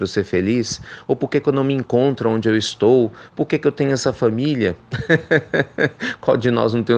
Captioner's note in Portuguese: risos